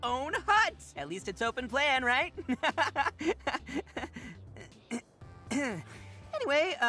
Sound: nervous laugh

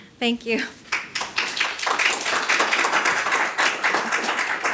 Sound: applause

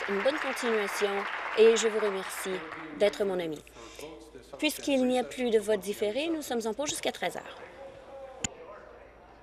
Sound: applause

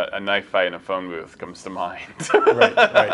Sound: laughs

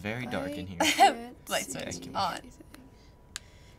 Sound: laughs

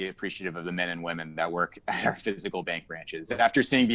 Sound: chuckles

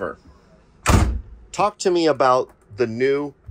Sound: door thuds

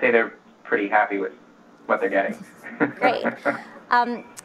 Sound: laughs

